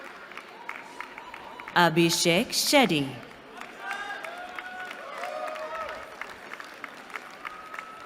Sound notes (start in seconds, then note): 3.4 cheering